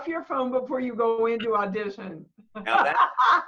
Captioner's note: laughter